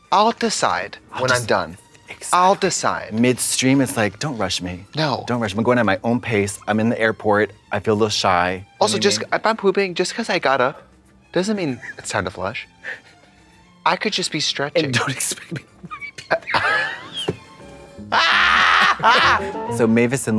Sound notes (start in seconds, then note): 18.1 Trixie caws; 18.1 blonde Women cachinnate